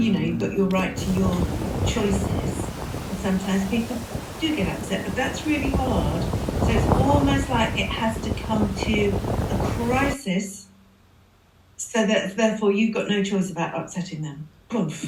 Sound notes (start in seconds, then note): 1.1 accoustic music; 2.7 waves; 4.8 waves; 8.8 waves